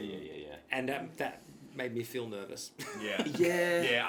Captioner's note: laughs